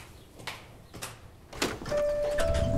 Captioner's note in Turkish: Kapı Açılıyor